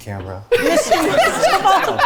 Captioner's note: everyone laughs